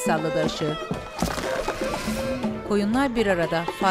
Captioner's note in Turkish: Düşme sesi